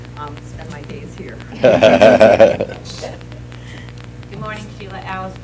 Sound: laughter

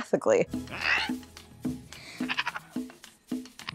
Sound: toucan chitters; Antonio gasps

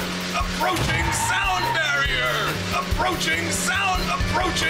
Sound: guffaw

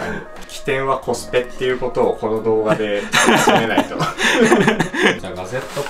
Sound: laughs

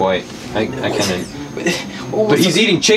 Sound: noises of struggled confusion

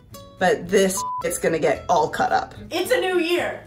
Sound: beeping

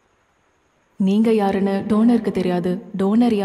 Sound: voice echoes

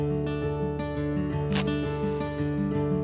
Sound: striking a matchstick

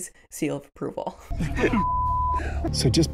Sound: chuckling; beep

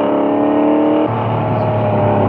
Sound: engine Revving Down

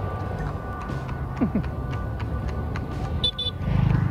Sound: horse's footstep sounds

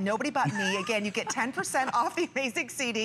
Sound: laughter

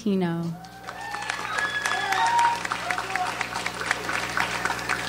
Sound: audience applauds

